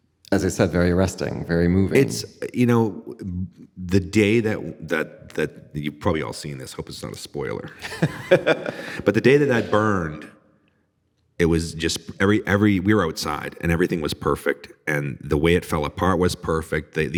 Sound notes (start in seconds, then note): 7.5 laughing